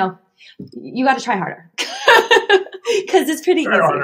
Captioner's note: laughing